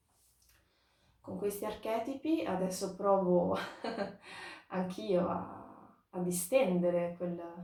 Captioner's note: laughing